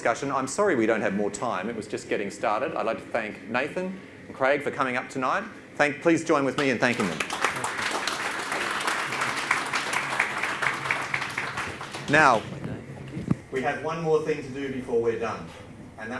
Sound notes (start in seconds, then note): 8.1 audience claps